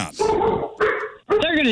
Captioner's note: dog Barking